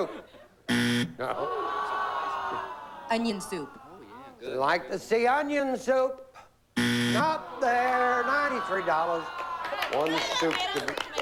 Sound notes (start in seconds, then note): 0.7 buzzer; 6.7 buzzer